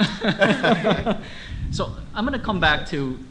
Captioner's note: laughter